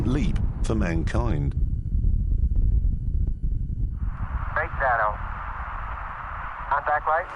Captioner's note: radio chatter